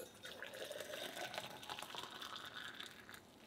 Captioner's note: kettle whistling; water burbling